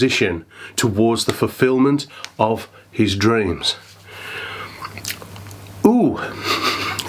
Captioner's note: laughs